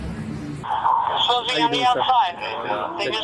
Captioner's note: radio chatter